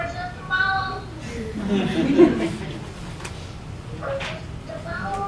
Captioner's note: laughter